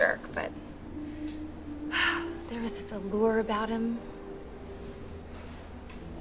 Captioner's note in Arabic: تنهد